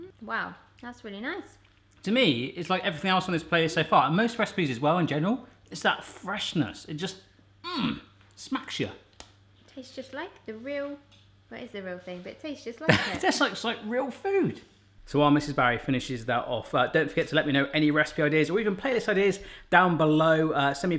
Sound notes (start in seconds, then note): 12.8 laughing